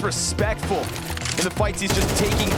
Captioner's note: gun firing